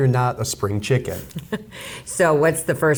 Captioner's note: laughs